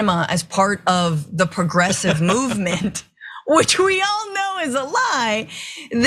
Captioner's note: laugh